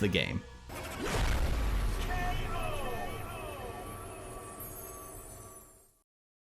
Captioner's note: cinematic boom